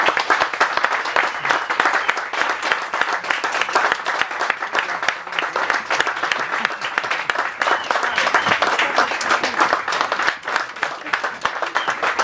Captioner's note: applause